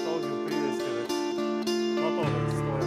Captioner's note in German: Leise Gesprächsfetzen